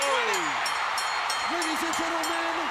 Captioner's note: bell ringing